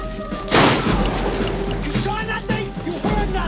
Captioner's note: gunshot